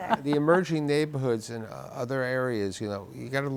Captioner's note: laughing